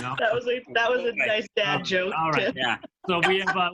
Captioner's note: laughter